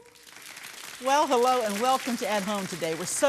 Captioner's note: audience claps